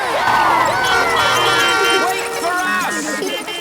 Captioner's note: beeping; laughter